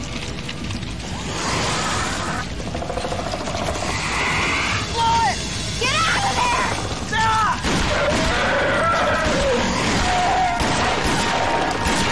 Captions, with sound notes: [centipede hisses] Blow it! Get out of here! Sara! [gunshots] [centipede squeals]